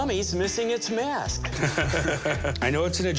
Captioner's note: laughter